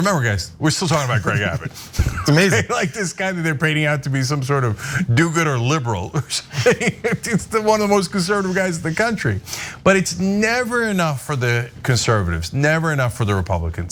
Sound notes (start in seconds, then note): 6.2 laugh